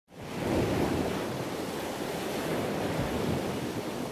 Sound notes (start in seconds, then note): 0.2 ocean waves crashing